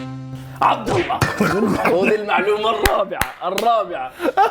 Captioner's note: laughs 😂